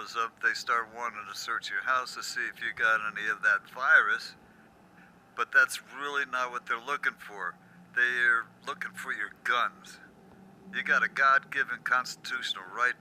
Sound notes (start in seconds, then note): none